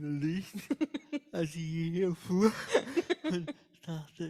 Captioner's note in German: beide lachen